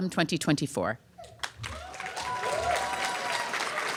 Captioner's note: applause